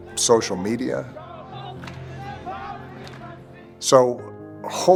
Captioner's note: crowd chanting